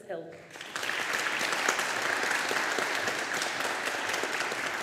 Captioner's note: audience applauding